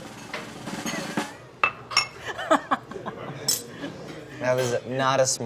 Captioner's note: drum roll; laughs